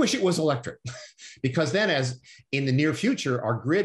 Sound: laughter

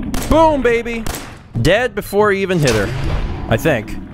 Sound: blam!; blam!

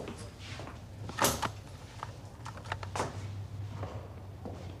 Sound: camera clicking

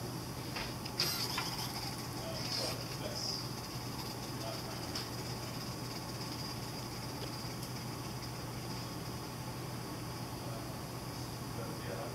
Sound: soft mechanical whirring

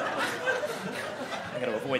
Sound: audience laughing

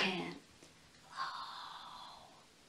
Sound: whispers

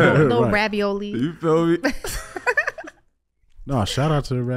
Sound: all laughing

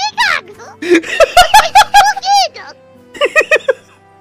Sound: laughing

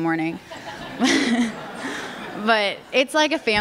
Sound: laughter

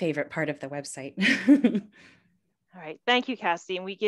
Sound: chuckles

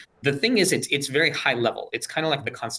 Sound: none

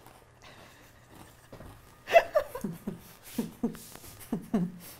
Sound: laughing

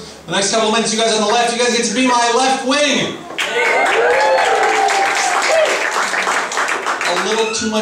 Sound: applause

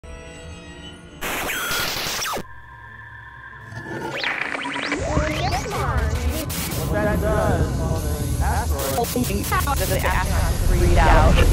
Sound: sound Effects

